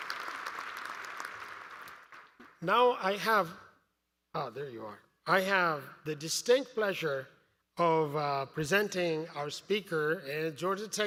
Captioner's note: applause